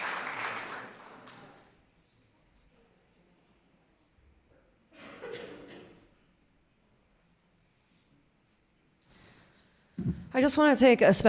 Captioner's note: clapping